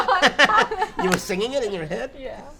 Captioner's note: laughing